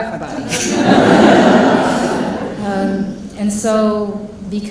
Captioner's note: audience laughing